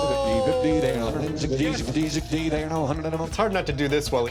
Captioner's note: rapid auctioneering